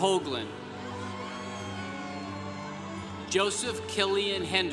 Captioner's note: congregation cheering